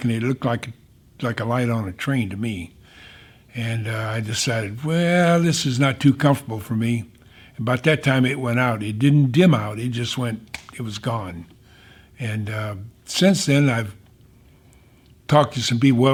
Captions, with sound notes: and it looked like a light on a train to me. And I decided, well, this is not too comfortable for me. And about that time it went out. It didn't dim out, it just went (snaps fingers), it was gone. And since then I've talked to some people.